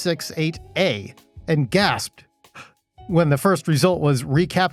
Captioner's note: gasp!